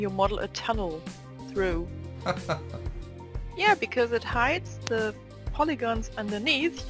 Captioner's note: laugh